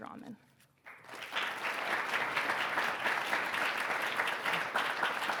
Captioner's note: audience clapping